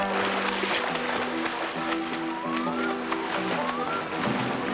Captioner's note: water splashing